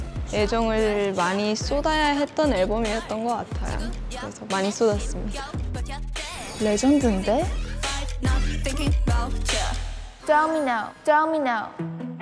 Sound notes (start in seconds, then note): none